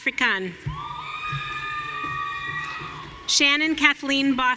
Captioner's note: audience cheering